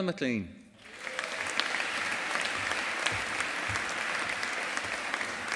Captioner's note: audience applauding